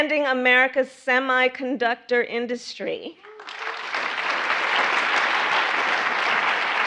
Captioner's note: applause